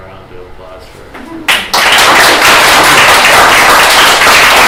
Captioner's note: applause